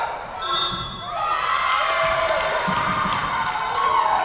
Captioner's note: whistle blowing